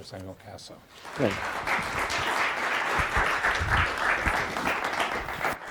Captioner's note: audience applauding